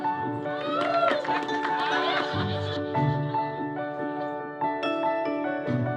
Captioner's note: student laughing; students cheering and laughing